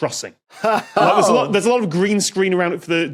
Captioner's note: laughs